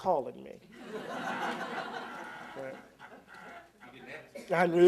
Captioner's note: laughter